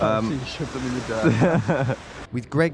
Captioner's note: laughing